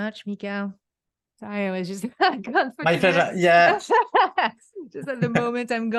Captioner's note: laughs